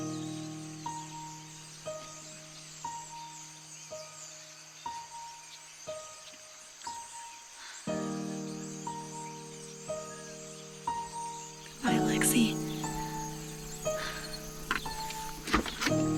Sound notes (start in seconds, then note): 2.9 emotional Piano Music Continues; 4.7 birds Chirping Continues